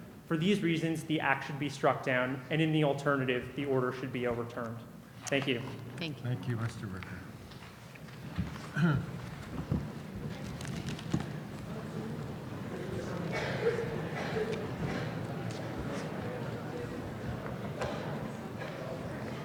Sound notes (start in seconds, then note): 6.2 voiceover; 11.3 audience chattering